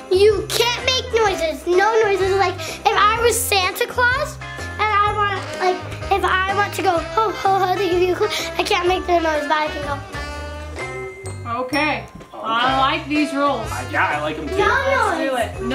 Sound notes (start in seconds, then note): none